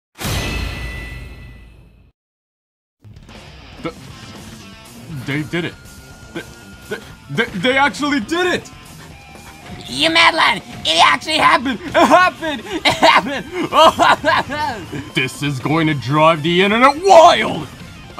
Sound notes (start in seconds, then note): 12.5 happy pokemon noises